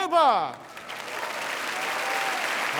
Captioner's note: audience applauding